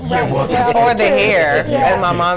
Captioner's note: laughing